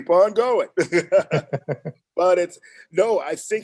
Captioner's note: both laugh